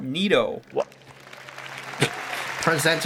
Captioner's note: Sundar gets interrupted by applause